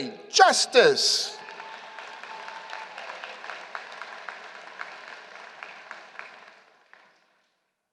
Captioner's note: applause